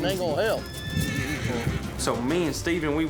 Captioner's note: horse neighs loudly